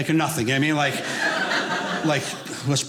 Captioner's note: audience laughing